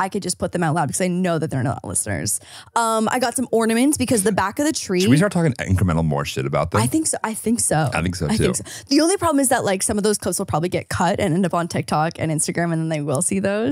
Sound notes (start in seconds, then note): 8.2 laughs